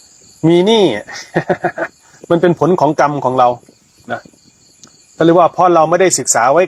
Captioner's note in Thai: เสียงหัวเราะ